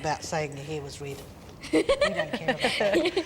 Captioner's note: they laugh